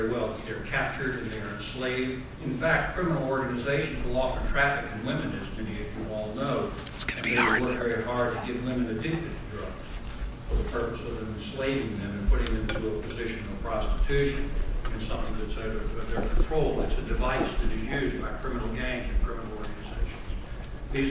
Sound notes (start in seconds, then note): 7.0 voiceover